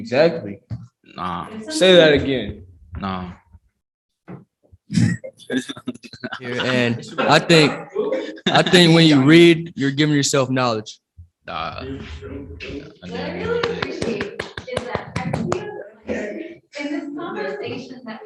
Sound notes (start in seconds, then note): 5.4 teens laugh